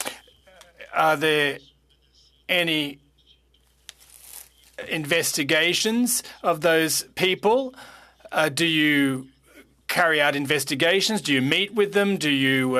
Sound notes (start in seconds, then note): 4.1 speaking French